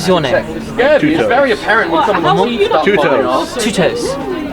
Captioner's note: people chattering